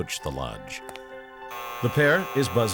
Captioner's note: buzzing